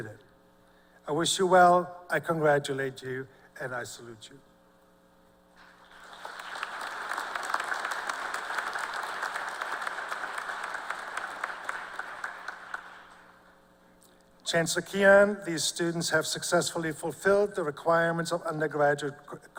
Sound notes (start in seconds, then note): 6.3 applause